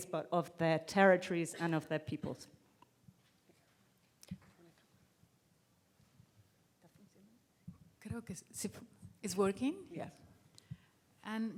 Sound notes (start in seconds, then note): 4.5 whispering; 8.2 speaking in foreign language